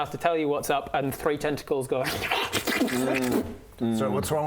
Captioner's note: slurp slobber slurp